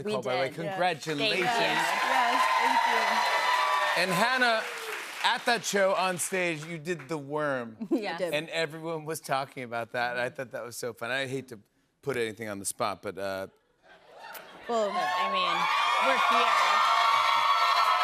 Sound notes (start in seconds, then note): 3.6 cheers and applause; 17.8 cheers and applause